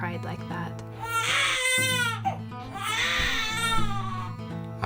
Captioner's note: baby crying